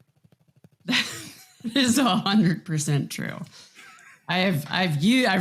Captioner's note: laughs; laughs